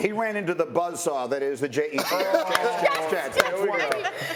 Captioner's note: laughter